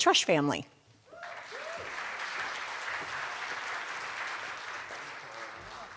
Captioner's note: cheers and applause